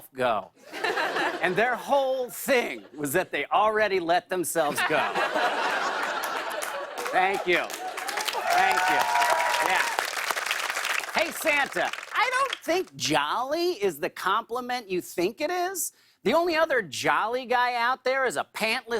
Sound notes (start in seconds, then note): 4.6 laughter; 8.5 cheers and applause